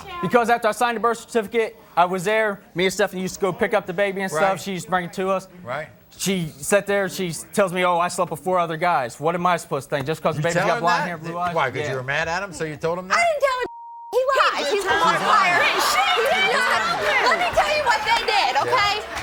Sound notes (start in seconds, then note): 13.6 beep